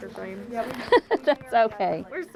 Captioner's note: laughs